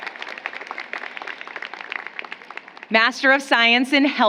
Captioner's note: applause